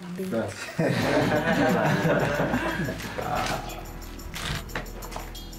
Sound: laughter

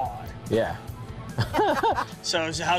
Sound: laughter

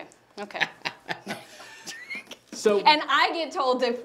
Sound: laughing

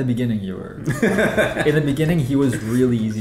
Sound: laughs

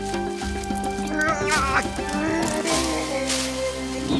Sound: grunting

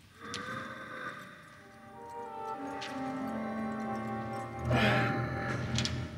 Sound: Donald growling; dramatic music

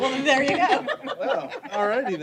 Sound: laughter

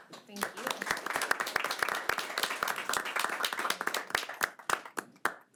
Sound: audience applauding

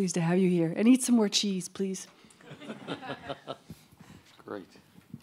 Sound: audience laughter

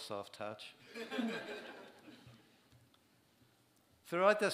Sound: laughter

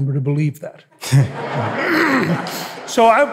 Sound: audience laughter

